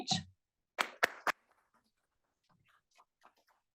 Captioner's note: applause